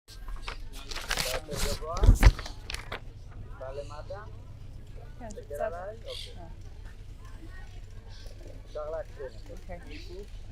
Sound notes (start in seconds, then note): 0.9 hebrew